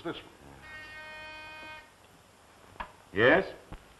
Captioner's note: phone buzzes